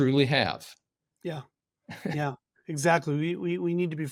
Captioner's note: chuckling